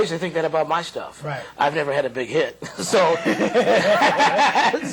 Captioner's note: laughter